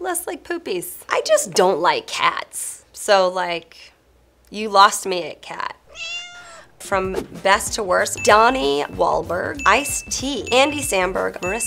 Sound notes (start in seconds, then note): 5.8 cat meowing